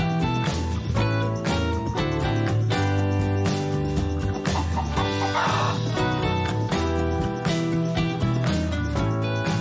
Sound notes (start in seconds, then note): 4.4 chicken clucking; 5.9 bright music